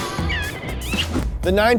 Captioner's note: kiss smacks